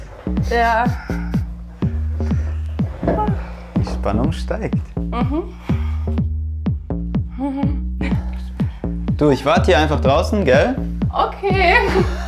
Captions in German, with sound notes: Ja. (Gespannte Musik) Die Spannung steigt. - Mhm. (Angespanntes Lachen) Du, ich wart hier einfach draußen, gell? - Okay.